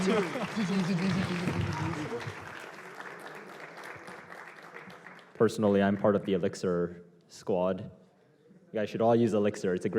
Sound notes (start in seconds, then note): 0.0 applause